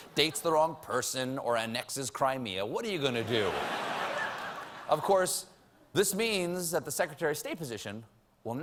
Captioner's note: laughter